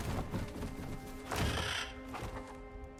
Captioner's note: caw